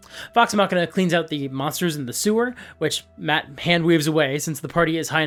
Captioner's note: none